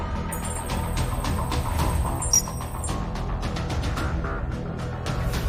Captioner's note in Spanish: Pitidos